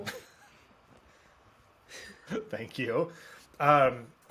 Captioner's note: laughs